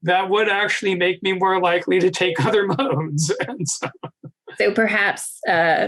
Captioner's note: laughing